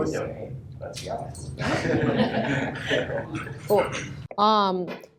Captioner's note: laughter